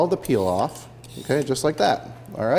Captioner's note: peeler scraping